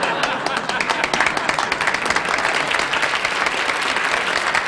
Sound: audience applauding

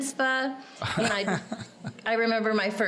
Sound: laughing

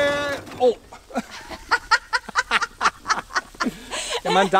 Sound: both laugh 😂😂

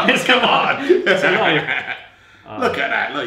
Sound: both laugh

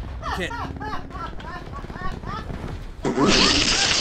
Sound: women laughing

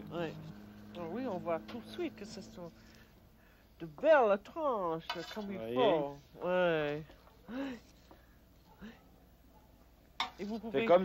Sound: conversing in French

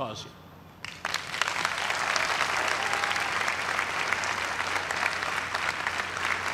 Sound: cheers and applause

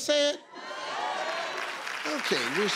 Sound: audience applause

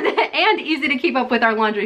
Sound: laughs

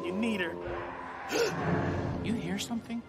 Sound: distant screeching

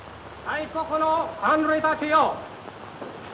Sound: Japanese language

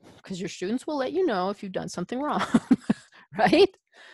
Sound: laughs

